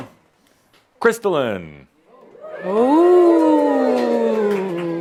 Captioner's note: audience says “Ooooh”